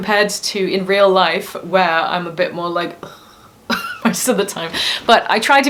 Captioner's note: laughs